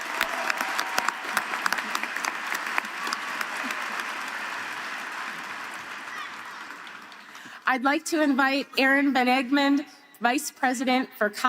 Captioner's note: applause